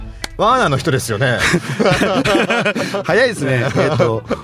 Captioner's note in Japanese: 笑い